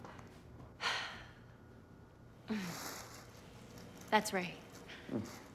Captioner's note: Madeleine sighs